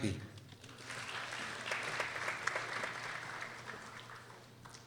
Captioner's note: people applauding